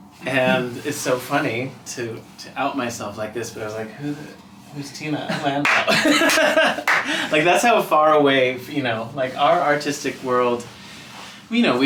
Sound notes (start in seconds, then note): 5.3 laughing; 5.6 hands clap